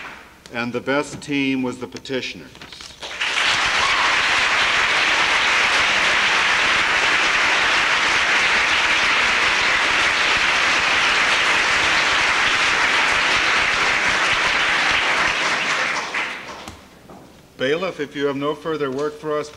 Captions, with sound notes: And the best team was the petitioners. [APPLAUSE] Bailiff, if you have no further work for us,